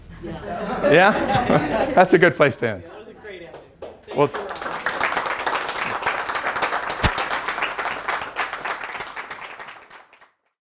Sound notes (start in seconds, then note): 4.5 applause